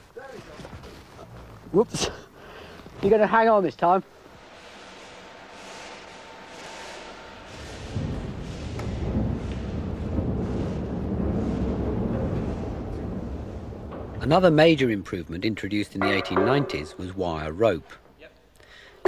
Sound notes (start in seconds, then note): 7.4 rumbling noise